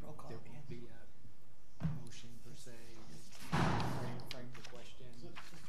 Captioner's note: board members quietly discussing